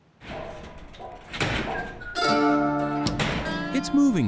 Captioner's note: dolly clanging